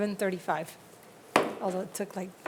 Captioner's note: gavel bangs